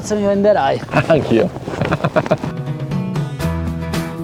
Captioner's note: laughter